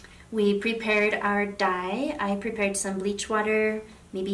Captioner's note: none